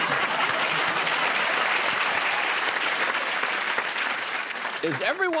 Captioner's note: applause